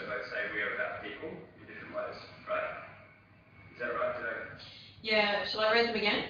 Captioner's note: audio distorts